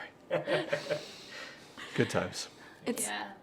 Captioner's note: laughing